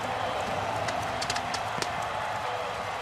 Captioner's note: cheering